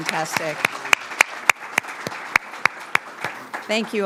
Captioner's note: audience applauds